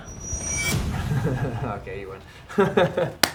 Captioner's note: laughing